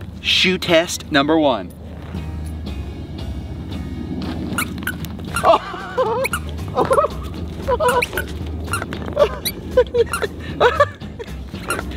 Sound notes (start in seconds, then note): 2.3 upbeat music; 4.2 shoes squeaking; 5.3 Rocky laughs; 7.6 shoes squeaking; 9.1 Rocky laughs